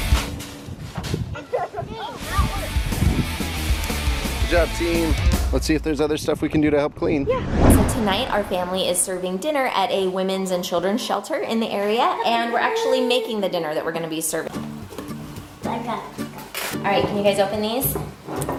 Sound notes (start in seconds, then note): 1.5 children laughing